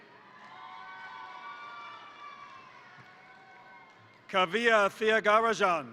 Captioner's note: crowd cheering; crowd applauding